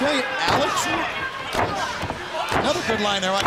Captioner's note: crowd chatter